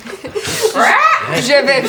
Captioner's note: bird squawk